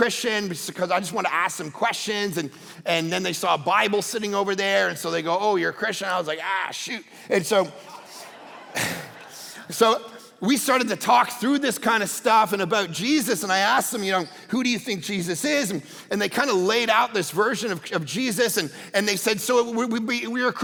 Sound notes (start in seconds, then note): 7.4 congregation laughing